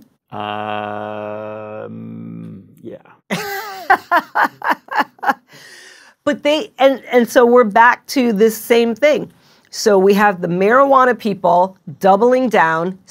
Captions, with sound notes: Ummm... - Yeah. (laughing) - And so we're back to this same thing. So we have the marijuana people doubling down.